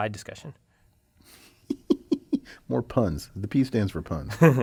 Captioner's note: laugh